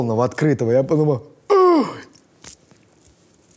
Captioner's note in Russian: шокированный возглас